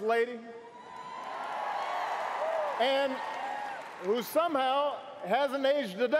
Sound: applause

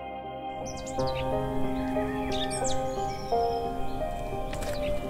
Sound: birds chirping; footsteps tapping on tar

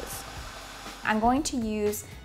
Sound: blender whirring

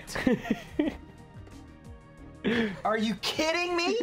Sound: laughs

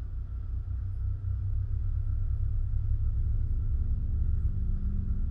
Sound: ominous rumbling

